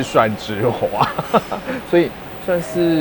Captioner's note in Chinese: 笑聲